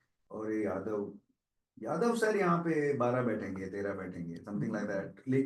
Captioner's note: non-english speech